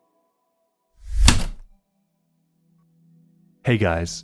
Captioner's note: typewriter keystroke